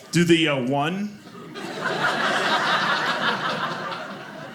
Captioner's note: audience laughing